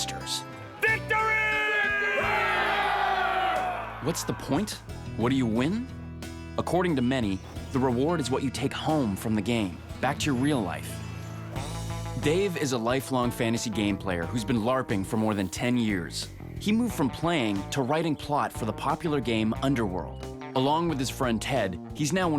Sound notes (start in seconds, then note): 0.8 cheering